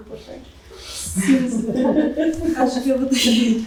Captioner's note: chuckling; speaking portuguese